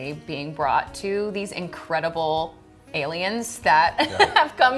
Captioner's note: laughing